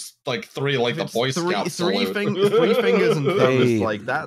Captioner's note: laughs